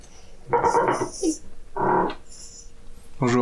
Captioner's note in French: Bruit de grincement